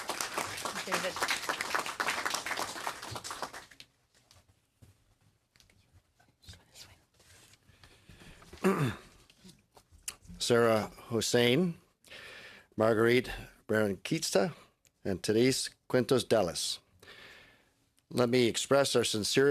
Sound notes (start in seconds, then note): 4.9 applause